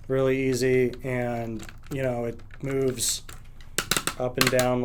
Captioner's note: stand clicking